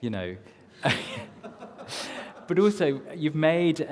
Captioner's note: laughs